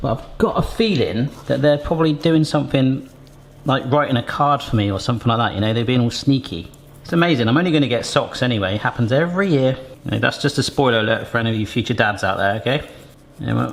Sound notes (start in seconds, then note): none